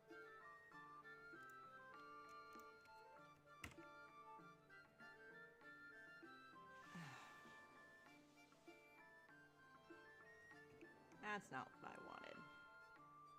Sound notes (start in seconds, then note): 0.1 mouse and keyboard clicking; 6.8 exasperated sigh